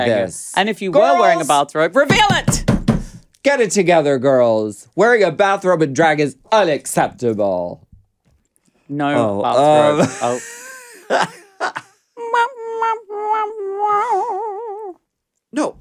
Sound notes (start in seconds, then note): 2.9 table thuds; 10.1 Alaska laughs